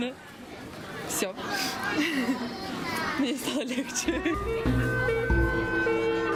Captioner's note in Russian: смеётся